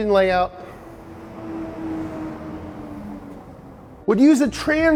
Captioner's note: truck engine roars